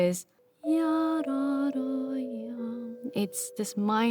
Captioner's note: imitating melody; vibraphone plays